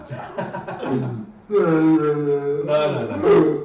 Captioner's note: laughing